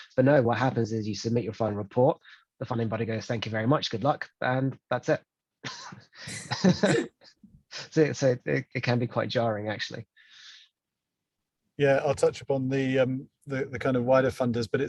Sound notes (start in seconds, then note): 6.2 both laugh